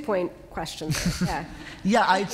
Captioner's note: laughter